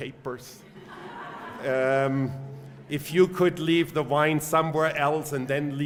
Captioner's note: laugh